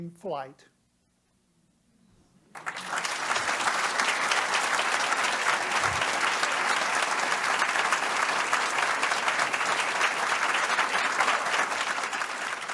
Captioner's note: applause